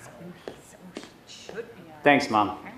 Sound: mixed murmurs

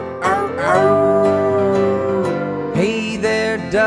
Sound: wolf howling

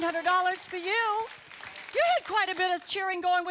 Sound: audience applause

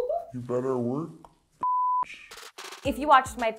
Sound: beep

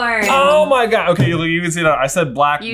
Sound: bell dings

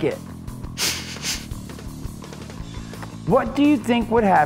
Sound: sniffing noise

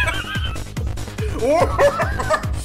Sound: laughter

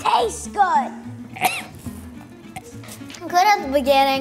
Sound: wretching

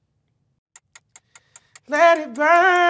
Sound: timer ticking

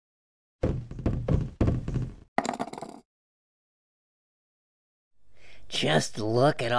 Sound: sounds of heads falling out, bouncing and rattling

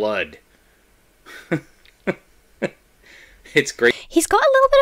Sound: laughs haughtily

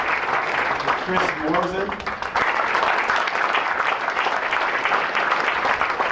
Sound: applause

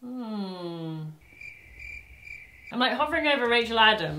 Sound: crickets chirp

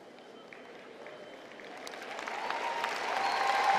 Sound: applause and cheering

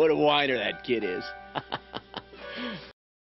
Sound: chuckles

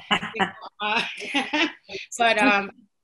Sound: laughter

